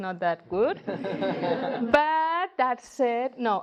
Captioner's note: audience laugh